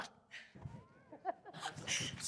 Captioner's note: audience Laughing